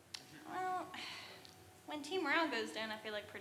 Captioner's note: sighs